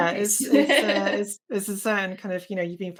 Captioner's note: laughs